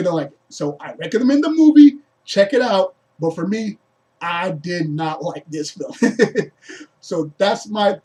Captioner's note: laughs